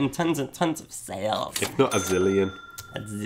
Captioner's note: cash register dinging